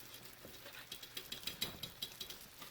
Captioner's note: whispered